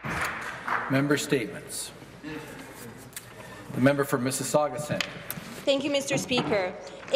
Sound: applause

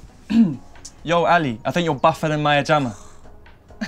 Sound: scoffs

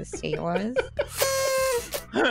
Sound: laughter

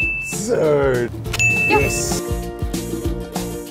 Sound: ding!; ding!

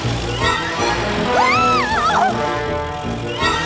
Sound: squealing

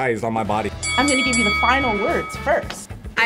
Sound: bell dings

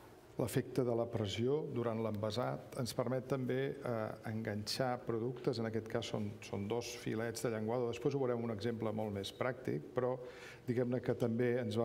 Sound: speaking catalan

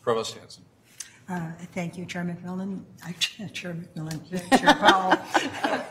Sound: laugh

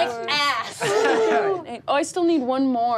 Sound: laughs

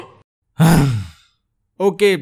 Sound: sighs

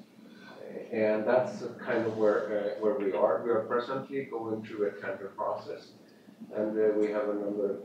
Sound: off mic

